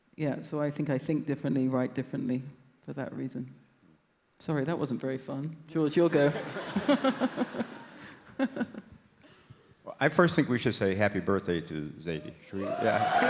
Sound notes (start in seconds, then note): 6.1 audience laughs